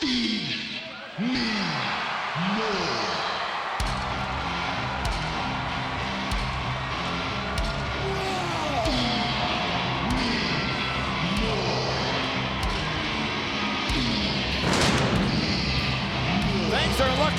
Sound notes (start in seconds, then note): 7.8 Ryback roars